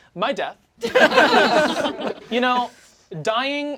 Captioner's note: all laugh